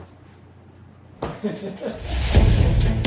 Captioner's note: crew laugh; suspenseful music